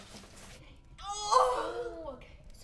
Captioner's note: Belle crying